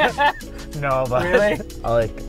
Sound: laughs

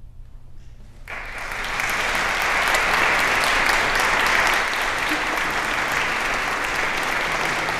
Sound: applause

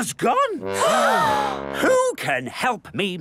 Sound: all gasp

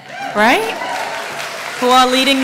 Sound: applause

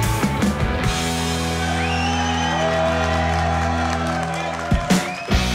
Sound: cheering

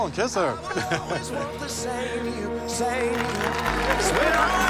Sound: laughter; cheers and applause

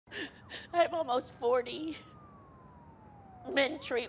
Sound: sobbing

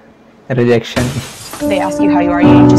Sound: glass break

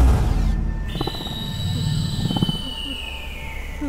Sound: creature shrieking

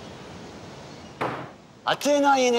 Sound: pounds tables; Eurybiades speaking in foreign language

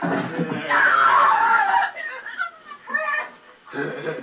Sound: female screaming; Justin chuckling

